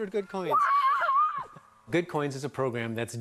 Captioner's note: cheering